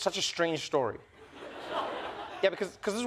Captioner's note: laughter